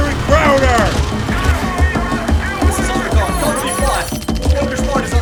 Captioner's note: panicked radio chatter